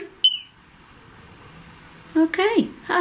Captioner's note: beep